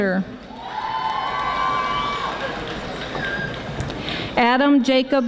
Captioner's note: audience applauding